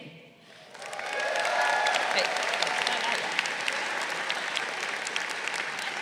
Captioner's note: crowd cheering